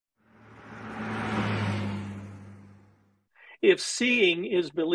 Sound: car accelerating

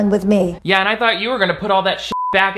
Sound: beep

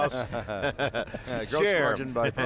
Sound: laughter

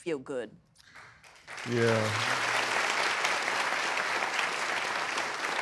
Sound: applauding

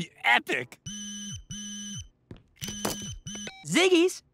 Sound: phone ringing

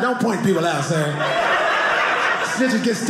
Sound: audience laughing

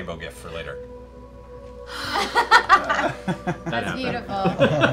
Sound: laughter

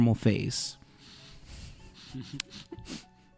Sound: laughter

